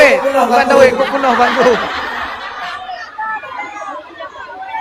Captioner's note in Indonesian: tertawa